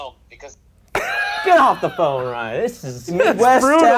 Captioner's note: laughter